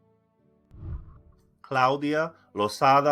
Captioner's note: whooshing